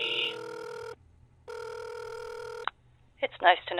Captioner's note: phone ringing